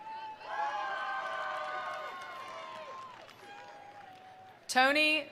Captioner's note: attendees cheering; attendees applauding